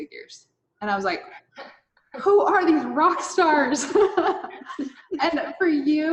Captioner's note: laughs